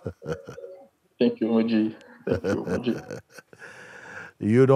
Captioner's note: Mooji lacht